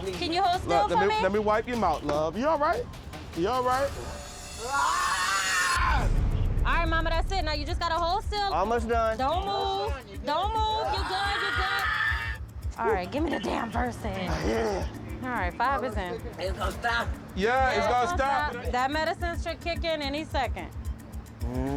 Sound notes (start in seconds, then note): 4.4 yells